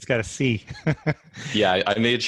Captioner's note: laughing